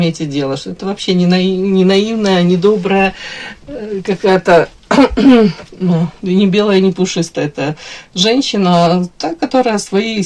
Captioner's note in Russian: откашливается